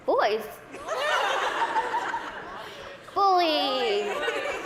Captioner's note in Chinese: 大笑